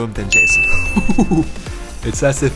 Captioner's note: beep; laughs